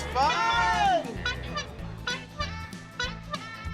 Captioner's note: toots horn